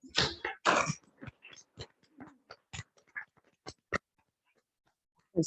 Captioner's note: congregation clapping